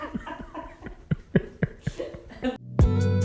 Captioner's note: laughs; producer laughs